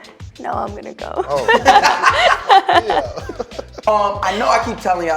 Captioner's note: laughing